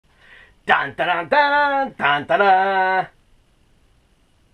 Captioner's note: mimicking theme song